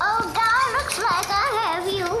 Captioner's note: Day rattles up with a walker; laughing